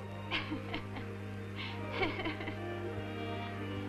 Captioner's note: laughing